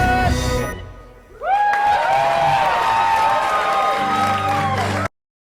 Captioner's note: thunderous applause